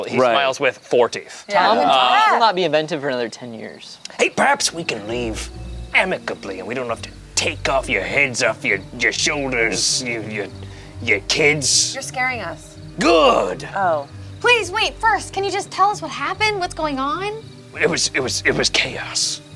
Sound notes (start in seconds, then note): none